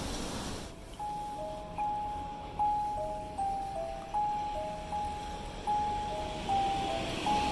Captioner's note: traffic hums; eerie chime music